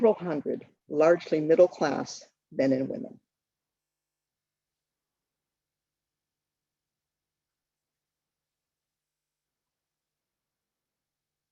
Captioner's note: long pause